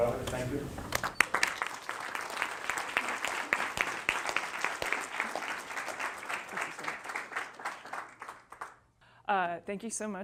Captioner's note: applause